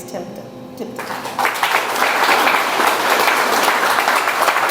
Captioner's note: audience applauds